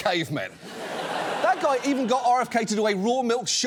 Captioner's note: studio audience laughs